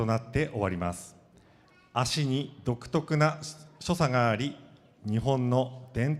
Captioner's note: speaking foreign language